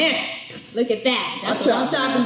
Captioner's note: hisses